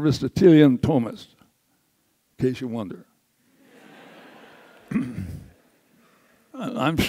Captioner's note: audience laughs